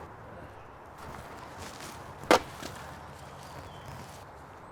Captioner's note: ax hitting wood